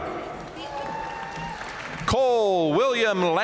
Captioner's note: audience cheering and applauding